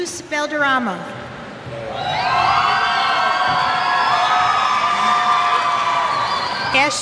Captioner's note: cheers